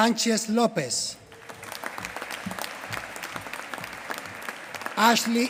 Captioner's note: applause